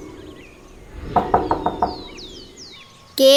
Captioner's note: knocking